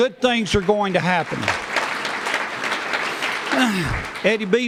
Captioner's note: applause